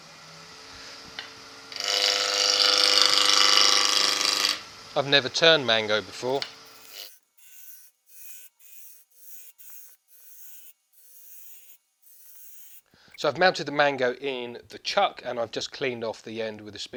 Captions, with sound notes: [Cool sounding machine noises] I've never turned mango before. Sped up noises so I've mounted the mango in the Chuck and I've just cleaned off the end with a